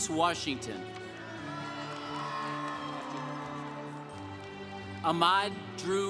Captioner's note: congregation applauding